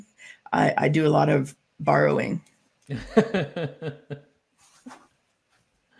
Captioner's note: both chuckling